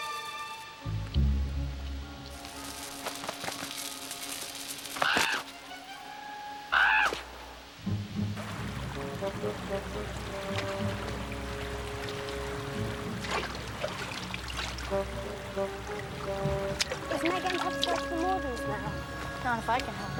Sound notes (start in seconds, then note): 5.0 caws